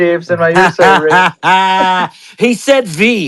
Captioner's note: laughing